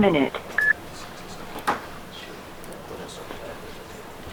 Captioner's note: tone beeps